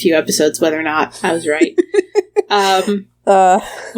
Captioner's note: laughs